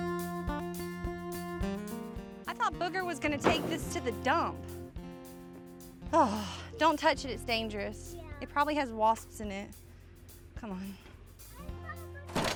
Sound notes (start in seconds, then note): 6.1 sighs